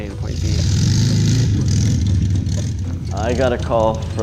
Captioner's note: engine revving